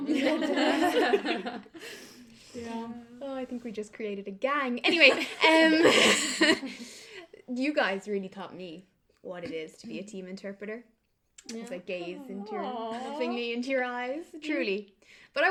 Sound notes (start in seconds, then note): 4.8 laughter